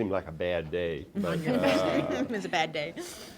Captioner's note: laughter